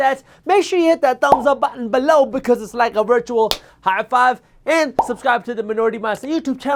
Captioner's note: clap